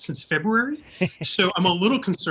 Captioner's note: laughing